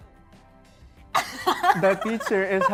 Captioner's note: chuckling